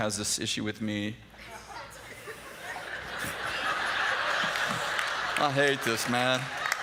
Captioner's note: laughter